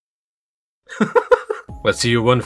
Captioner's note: sobbing?